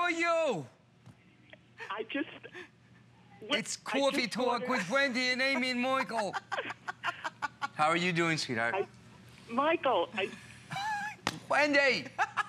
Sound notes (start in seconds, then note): 2.6 laughter